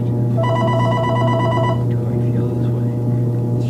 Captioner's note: phone ringing